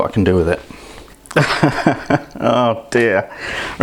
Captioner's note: laughs